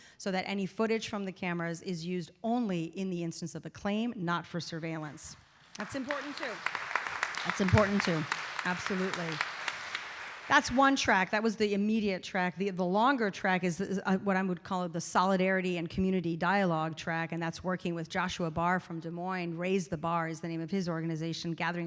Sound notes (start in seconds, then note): 5.7 audience applauding